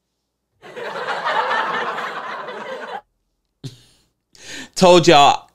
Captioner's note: imitate people laughs